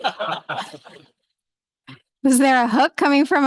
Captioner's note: laughter